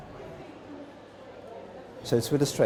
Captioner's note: background chatter